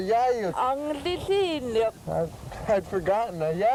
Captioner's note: laughs; speaking yupik